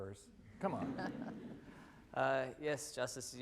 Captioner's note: laughter